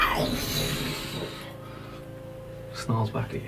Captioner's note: snarling sound